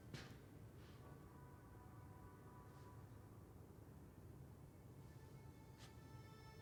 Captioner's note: none